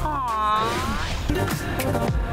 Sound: logo whooshing; upbeat music

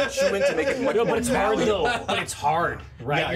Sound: laughs

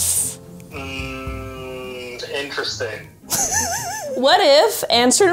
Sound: laughs

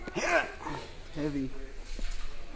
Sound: grunting

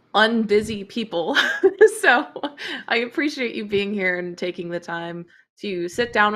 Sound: laughs

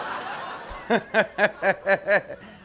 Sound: laughter

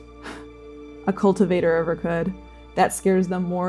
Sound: exhaling

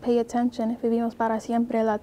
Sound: in Spanish

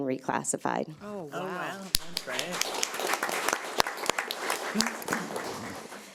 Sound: audience applauding

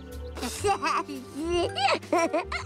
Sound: laughing

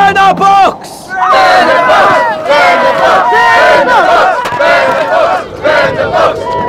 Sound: crowd

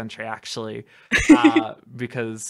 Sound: laughter

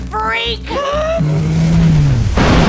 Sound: slo-mo sound effect; bang

